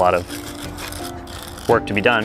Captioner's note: scrubbing